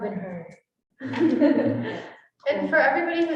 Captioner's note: students chuckling